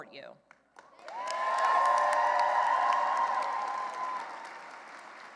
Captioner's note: cheering and applause